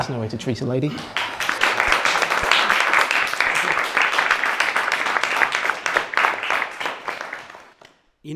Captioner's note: laughter; applause